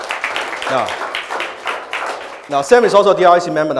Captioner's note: audience applauds